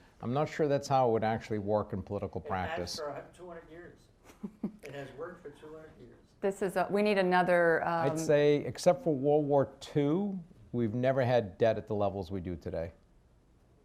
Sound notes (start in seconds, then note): 4.2 chuckles